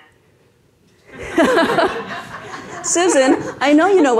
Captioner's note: everyone laughs